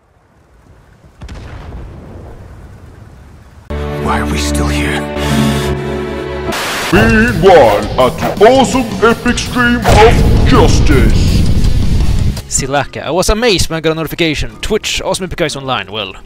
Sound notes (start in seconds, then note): 5.3 sniff